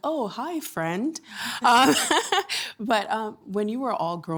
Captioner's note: laughing